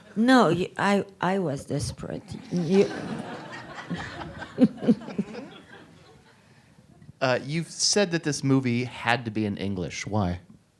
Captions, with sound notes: No, I was desperate. (audience laughs) - You've said that this movie had to be in English, why?